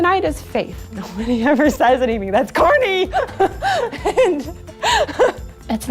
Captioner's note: laughter